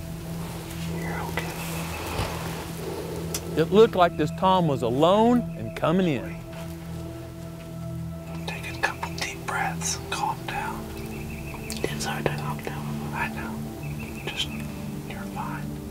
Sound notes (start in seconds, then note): 0.0 whispering; 7.4 whispering